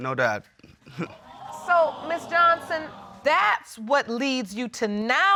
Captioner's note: audience gasping